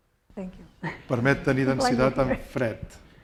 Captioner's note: speaking spanish